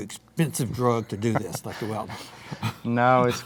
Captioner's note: laughing